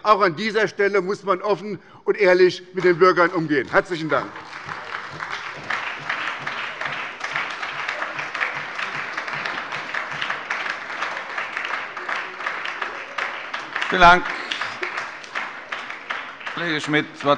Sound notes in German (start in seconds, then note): 4.8 Beifall bei der SPD